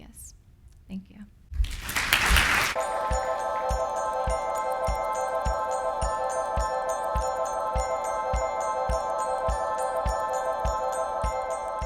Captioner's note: applause and Music